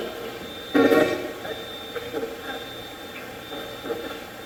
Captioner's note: Steve's Box chatters